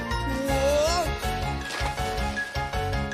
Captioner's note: splashing